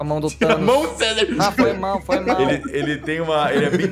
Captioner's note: chuckles